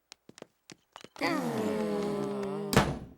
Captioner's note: all sighing; door closing